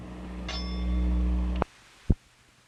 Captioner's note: bell Sound